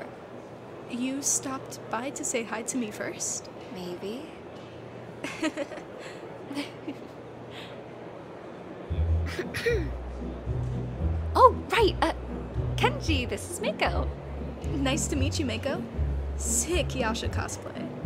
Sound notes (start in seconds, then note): 5.2 giggle; 9.2 clears throat